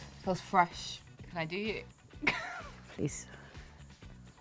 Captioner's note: laugh